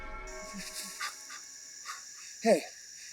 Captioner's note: ominous Paranormal Music Plays; heavy Breathing